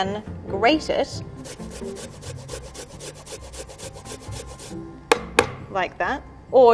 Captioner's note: ginger grinding against grater